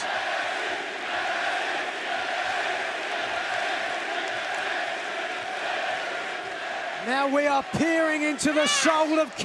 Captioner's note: crowd cheering